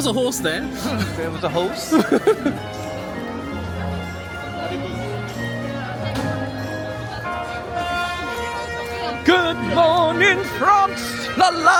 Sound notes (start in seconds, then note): 1.9 chuckles; 3.8 gentle festive music